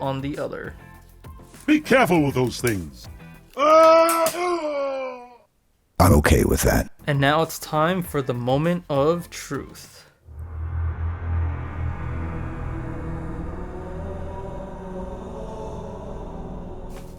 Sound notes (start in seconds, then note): 3.5 screaming sounds; 10.2 epic halo choir theme plays